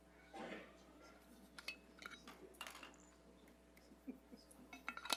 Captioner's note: group chattering faintly